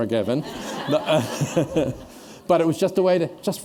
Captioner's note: laughter